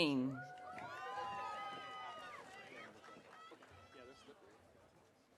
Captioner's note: audience cheering